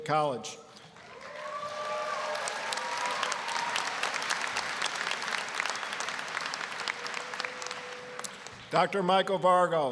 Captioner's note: applause, cheering